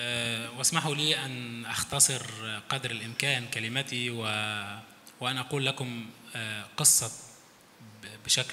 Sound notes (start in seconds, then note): 0.8 speaks in foreign language